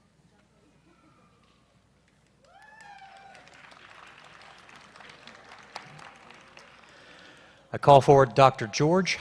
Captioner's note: applause